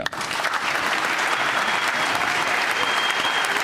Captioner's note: applause